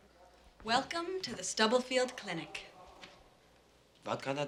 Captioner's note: none